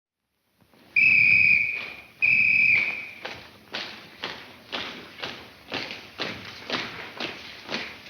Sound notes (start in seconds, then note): 0.9 whistle tweets; 2.8 footsteps marching in rhythm